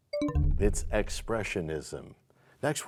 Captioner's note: bell chimes, time expires